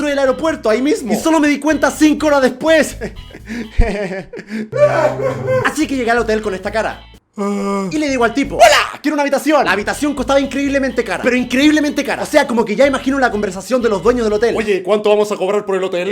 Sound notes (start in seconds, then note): 3.0 nervous chuckle; 4.7 cries